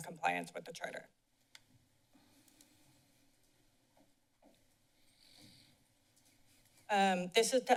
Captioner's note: silence